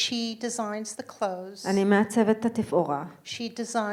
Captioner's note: speaking in foreign language